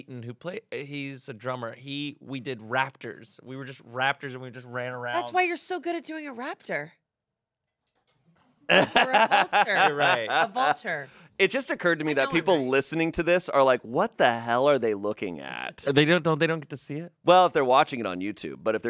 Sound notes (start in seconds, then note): 8.7 laughs